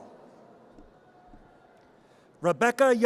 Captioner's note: audience cheers